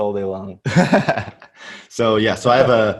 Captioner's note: laughs